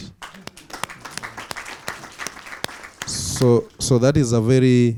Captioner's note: audience applauds